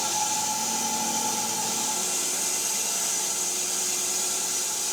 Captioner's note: saw buzzing